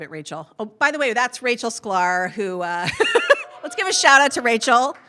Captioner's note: laughs